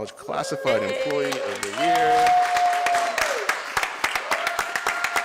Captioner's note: cheers and applause